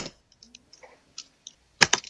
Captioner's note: keyboard clicking